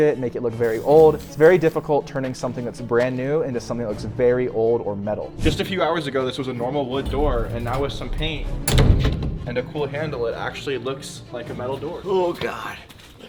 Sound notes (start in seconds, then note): 7.0 door thuds